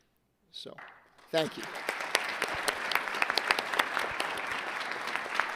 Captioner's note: audience laughing